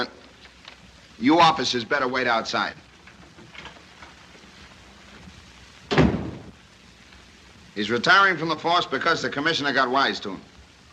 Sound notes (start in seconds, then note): none